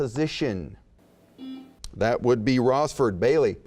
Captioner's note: buzzing